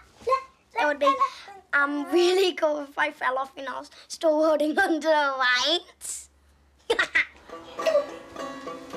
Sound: laughs

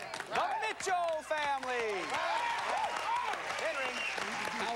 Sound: cheers and applause

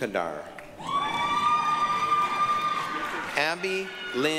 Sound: applause, cheering

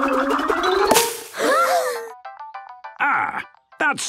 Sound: all gasping

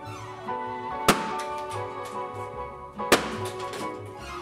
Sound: balloons pops

